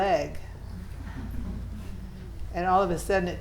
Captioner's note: students laughing